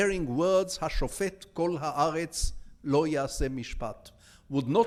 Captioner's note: speaking in foreign language